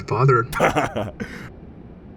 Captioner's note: Heavy Guy chuckles